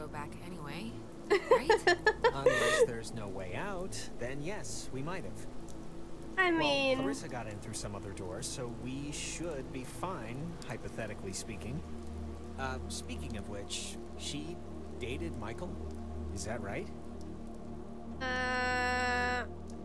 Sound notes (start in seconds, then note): 1.3 laughter